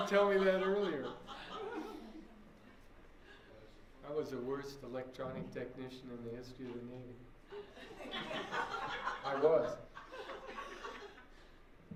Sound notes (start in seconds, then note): 7.5 laughter